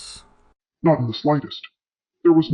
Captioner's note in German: verzerrt